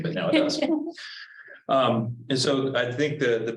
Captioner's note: woman laughing